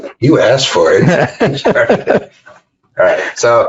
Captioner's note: laughing